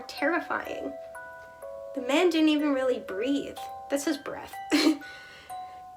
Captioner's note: laugh